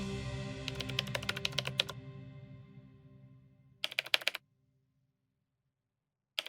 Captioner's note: typing